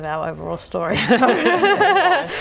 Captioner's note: laughing